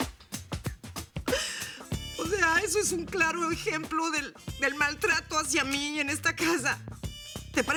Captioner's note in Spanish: Sollozos